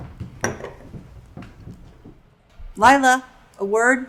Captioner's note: objects clattering